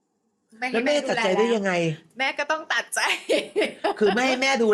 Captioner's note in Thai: เสียงหัวเราะ